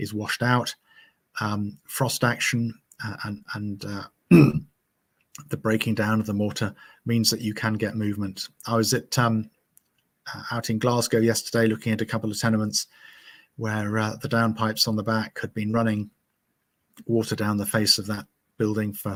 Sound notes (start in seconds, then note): 4.3 clearing throat